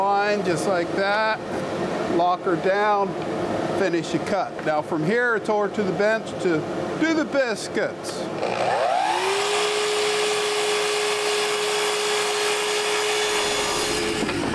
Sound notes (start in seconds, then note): 8.3 miter saw whirling